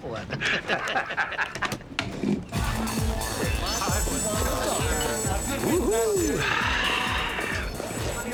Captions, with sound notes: Got one. (laughter continues) (dance music playing) - Woo-hoo. (sighs)